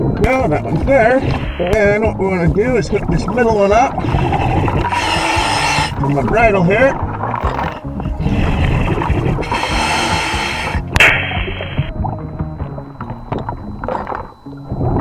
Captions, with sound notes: Oh, that one's there. And what we wanna do is put this middle one up. (water burbling) (regulator hissing) And a bridle over here. (water burbling) (regulator hissing)